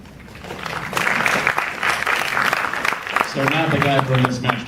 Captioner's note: audience applause